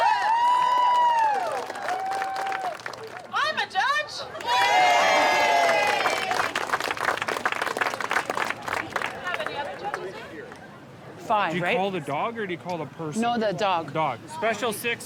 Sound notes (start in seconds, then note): 0.0 crowd cheering and clapping